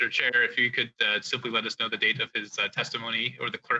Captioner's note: speaking French